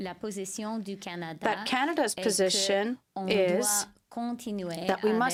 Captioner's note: speaking french